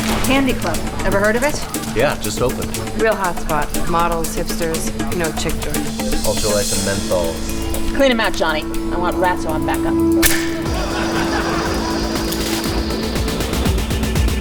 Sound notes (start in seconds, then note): 10.2 rat trap loudly snaps shut; 10.5 audience laughing